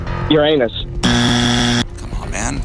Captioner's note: buzzer